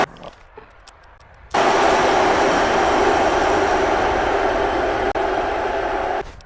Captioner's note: ecstatic cheering and applause